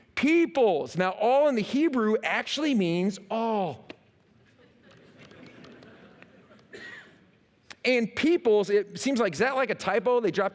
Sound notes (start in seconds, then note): 4.4 laughter